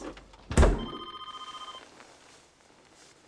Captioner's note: phone ringing